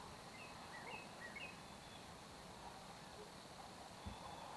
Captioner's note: birds chirping